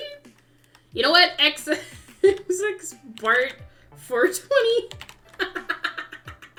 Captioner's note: typing; laughs